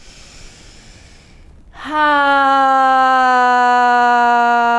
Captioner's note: inhaling and sighing